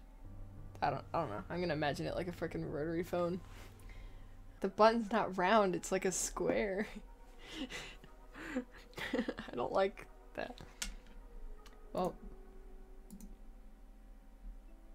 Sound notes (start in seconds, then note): 8.4 laughs